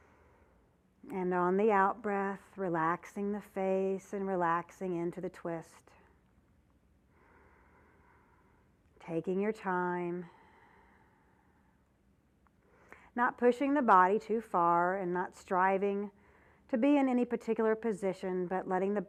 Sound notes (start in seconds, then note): 0.0 breath sound; 7.1 breath sound